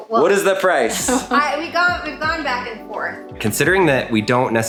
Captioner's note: laughing